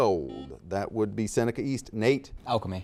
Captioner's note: buzzer dings